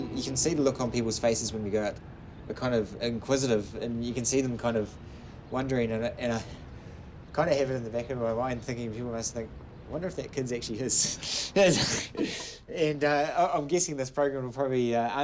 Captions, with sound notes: You can see the look on people's faces, when you go out. They're kind of inquisitive. And you can see them wondering... And I kind of have it in the back of my mind.. Thinking, they must think: 'I wonder if that kid's actually his.' [Laughs] And I'm guessing this program will probably answer...